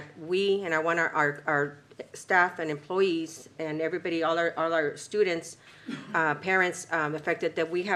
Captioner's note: clears throat